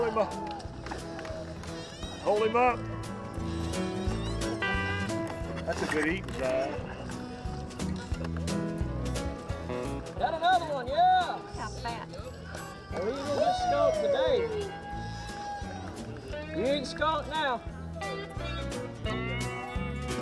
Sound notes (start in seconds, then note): 3.6 relaxed music continues; 9.7 fishermen cheering; 15.4 relaxed music continues